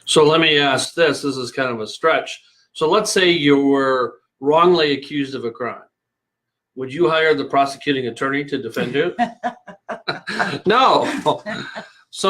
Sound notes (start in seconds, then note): 8.7 both laughing